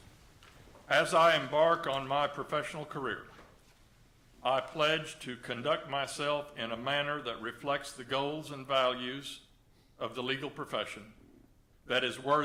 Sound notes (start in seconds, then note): none